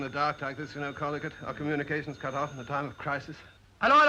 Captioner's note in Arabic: يرن الهاتف